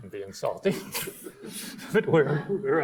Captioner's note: laughs; audience laughs